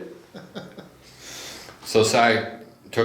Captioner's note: laughs